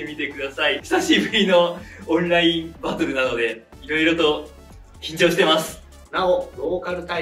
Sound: laughs

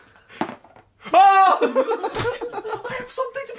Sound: laughing

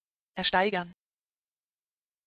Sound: fast Pronunciation

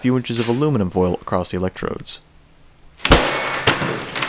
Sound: thump

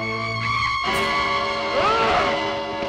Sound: scoffs

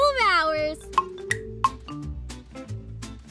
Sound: clock ticking; fun music

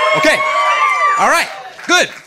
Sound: audience cheering

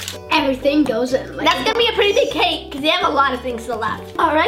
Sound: none

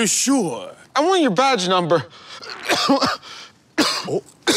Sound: coughing

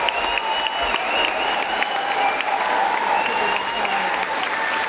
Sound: applause

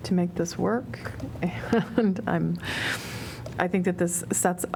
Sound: laughter

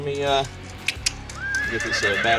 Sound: clicks tongue; horse neighs

